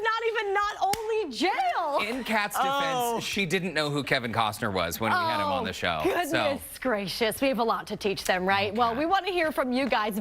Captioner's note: laughter